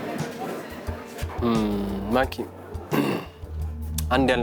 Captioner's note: Kaleb clears his throat